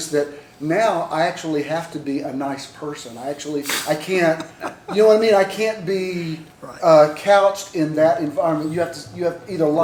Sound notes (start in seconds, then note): 4.3 laughter